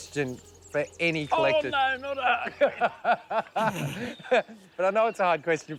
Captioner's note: laughs